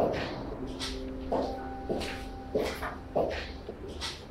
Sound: footsteps

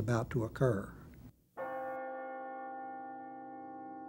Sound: bell

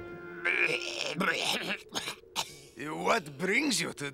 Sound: coughing

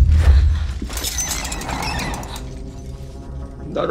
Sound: creaking

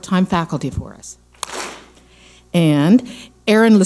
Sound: clap smack

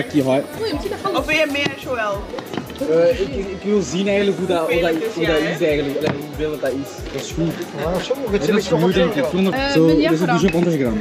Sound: foreign language

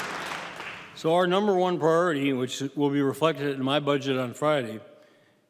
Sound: applause

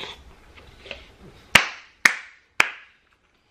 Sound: clapping

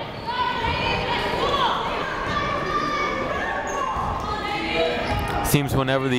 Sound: people shouting in the crowd

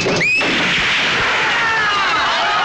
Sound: gunshot

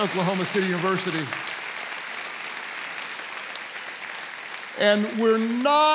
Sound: congregation applauds

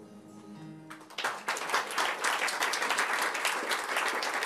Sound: applause

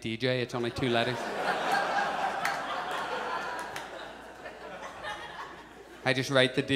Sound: audience laughs

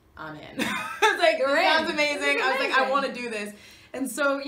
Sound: Kathryn laughs

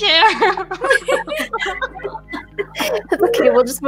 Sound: laughs

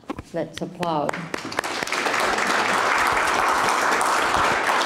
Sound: applauding

